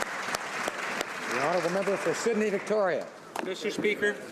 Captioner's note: some Applause